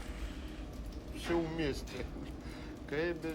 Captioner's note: speaking russian